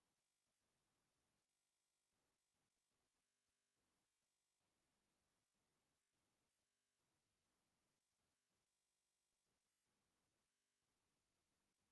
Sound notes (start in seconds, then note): none